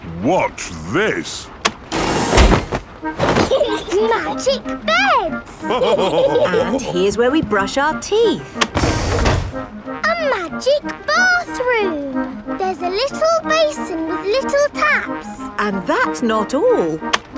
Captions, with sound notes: Watch this! (LAUGHING) Magic beds! (ALL LAUGHING) And here's where we brush our teeth! A magic bathroom! There's a little basin with little taps! And that's not all!